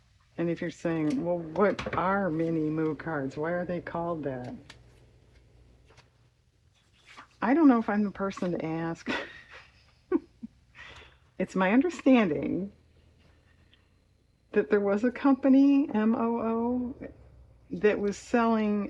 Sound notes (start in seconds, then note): 9.0 laughs